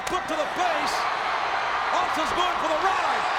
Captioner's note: audience cheers